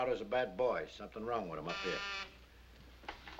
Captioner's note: buzzer